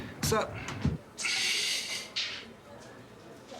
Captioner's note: exasperated and pointed gay exhale